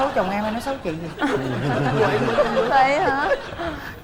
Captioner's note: laughing